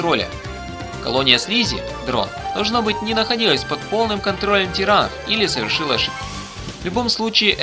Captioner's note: drone